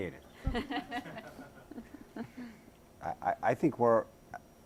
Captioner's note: all laughing